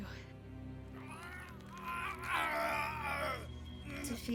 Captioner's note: Benny growling